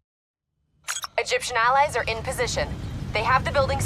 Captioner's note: kane over radio